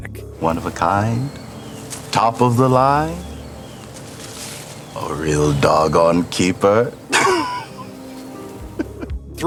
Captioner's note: laughs